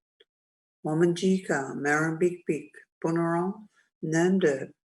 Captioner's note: speaks native language